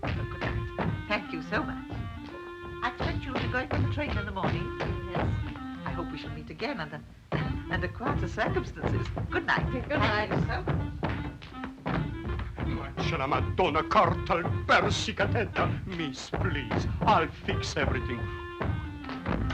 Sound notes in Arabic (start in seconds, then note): 12.9 بوريس يتحدث بلغة أجنبية